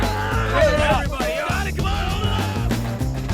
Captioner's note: students shouting and grunting